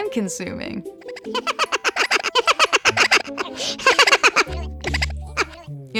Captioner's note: MOOD laughing